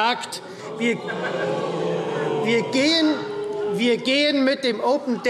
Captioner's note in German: Zurufe CDU und AfD: Oh!